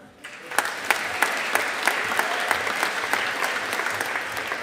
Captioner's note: audience applauding